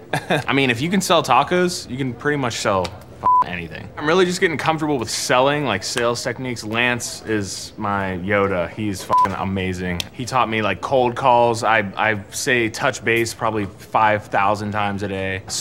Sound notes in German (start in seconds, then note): 3.2 piepen; 9.1 piep